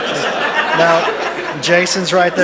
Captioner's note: attendees laughing